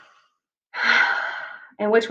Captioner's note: sighs